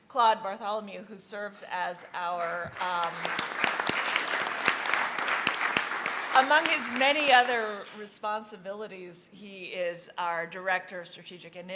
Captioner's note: applause